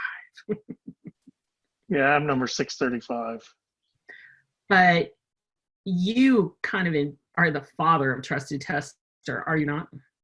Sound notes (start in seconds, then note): 0.4 laughing